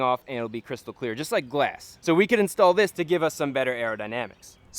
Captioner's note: none